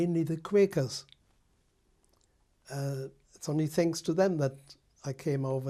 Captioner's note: pauses for 3 seconds